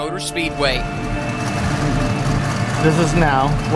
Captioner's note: car engine revving